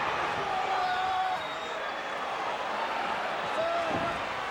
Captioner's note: Tully yells